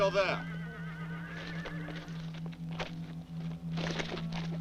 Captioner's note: horses whinny